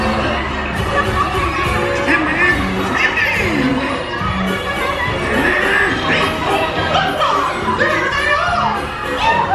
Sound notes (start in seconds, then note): 0.1 bright carnival music; 2.4 Donald quacking